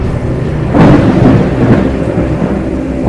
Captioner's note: thunder rumbling